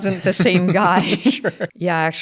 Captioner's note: laugh